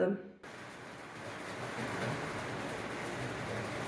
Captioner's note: rain